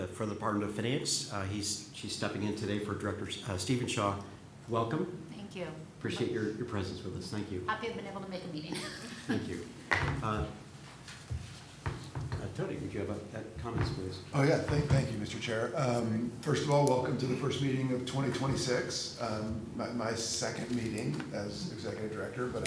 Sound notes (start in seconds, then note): 8.7 laughs